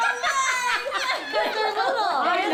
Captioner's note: laughs